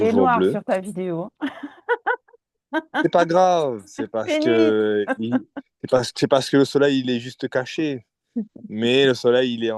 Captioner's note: laughs